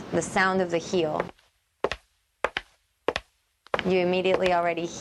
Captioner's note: click-clacking